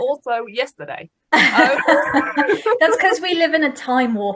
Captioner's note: laughing